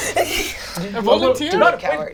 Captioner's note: laughs